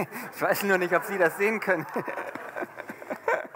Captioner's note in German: lachen